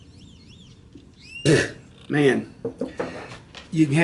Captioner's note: spits